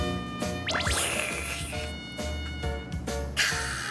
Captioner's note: slurping